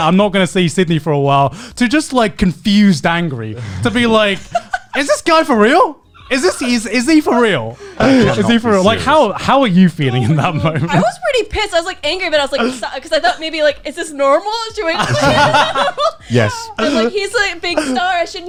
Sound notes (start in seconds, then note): 14.9 laughing